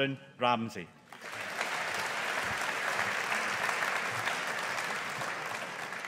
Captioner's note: audience applauding